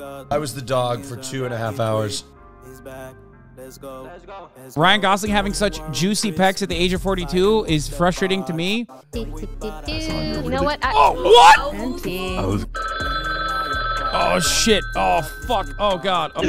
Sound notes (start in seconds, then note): 12.8 timer ringing